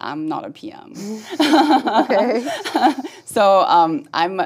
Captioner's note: laugh